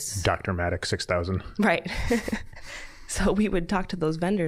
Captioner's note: laughing